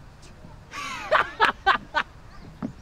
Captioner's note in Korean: 웃음 소리